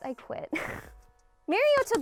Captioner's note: laughs